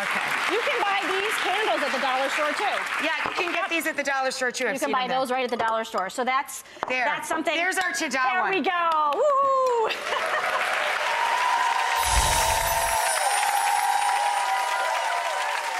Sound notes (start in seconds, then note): 9.5 audience applauding; 9.8 chuckling; 10.6 light music